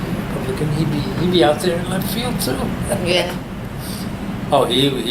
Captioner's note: laughs